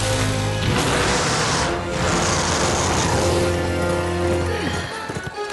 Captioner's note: roaring; sighs